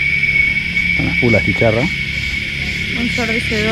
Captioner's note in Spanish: cigarras